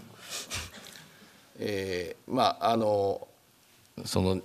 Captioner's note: speaking japanese